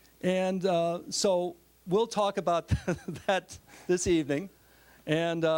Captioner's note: laughing